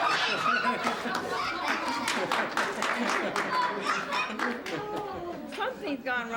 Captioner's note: laughter; applause